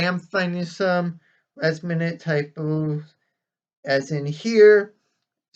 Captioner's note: mutters; resumes normal voice